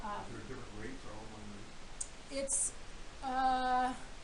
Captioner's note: man speaking